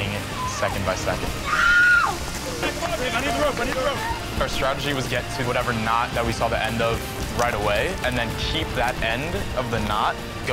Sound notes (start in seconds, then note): 0.1 shrieking